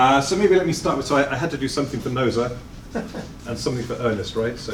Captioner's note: chuckles